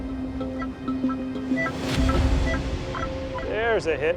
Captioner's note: detector beeps